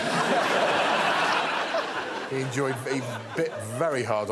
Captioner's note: laughter